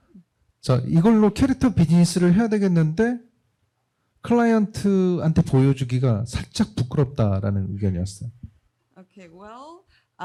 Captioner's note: speaking korean